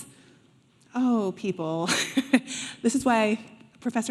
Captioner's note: laughing